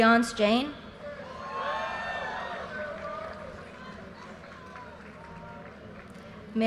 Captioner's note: audience cheers and applause